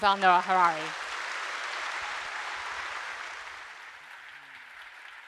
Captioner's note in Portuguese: público aplaudindo